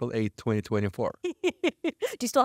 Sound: laughing

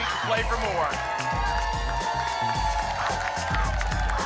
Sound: applause and cheering

